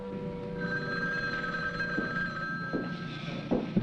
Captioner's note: phone ringing